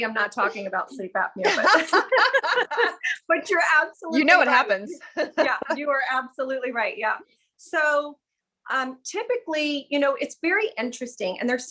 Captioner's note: chuckles; laughs